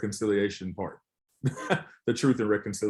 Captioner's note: chuckles